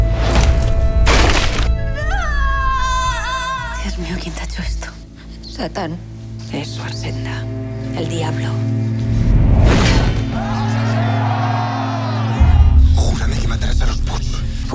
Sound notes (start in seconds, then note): 2.0 screaming; 10.4 crowd